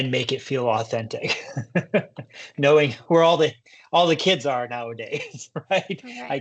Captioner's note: chuckles